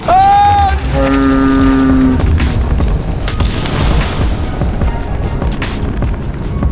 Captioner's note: flame whooshing; upbeat synth music